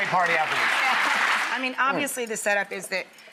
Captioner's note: applause